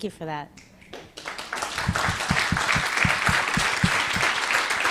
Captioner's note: audience applauding